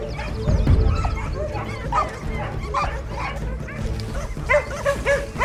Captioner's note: tense music; dogs barking